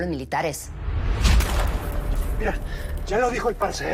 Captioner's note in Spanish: Disparo